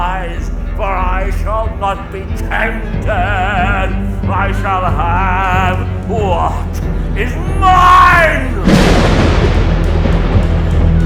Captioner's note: clap of Thunder; background bedlam of the insane asylum